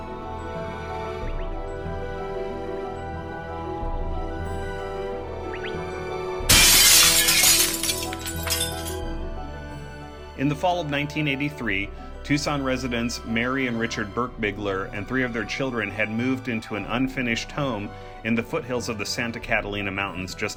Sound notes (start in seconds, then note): 6.4 shattering glass